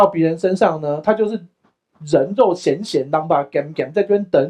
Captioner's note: Taiwanese